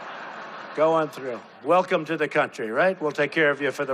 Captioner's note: crowd laughing